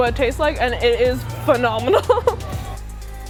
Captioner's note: laughs; upbeat music